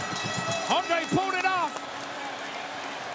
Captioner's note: bell rings